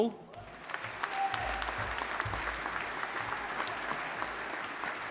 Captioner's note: audience applauding